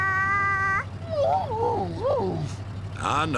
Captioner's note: howling